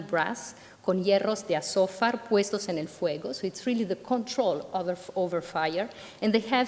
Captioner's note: speaking spanish